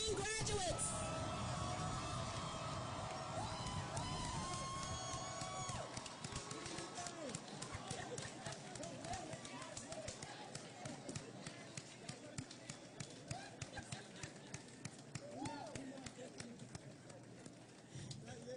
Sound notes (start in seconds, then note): 1.2 applause and Cheering